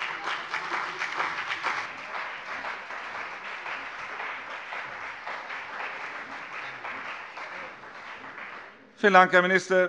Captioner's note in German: Beifall CDU und BÜNDNIS 90/DIE GRÜNEN